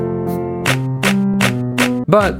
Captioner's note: clap